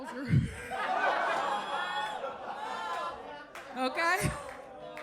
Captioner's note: audience laughs